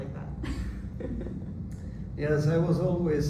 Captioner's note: laughs